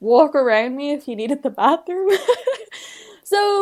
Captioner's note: laughs